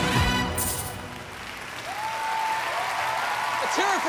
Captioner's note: applause